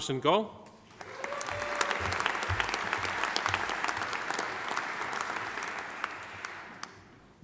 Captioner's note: audience applauding; audience cheering